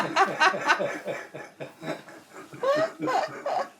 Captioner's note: laughing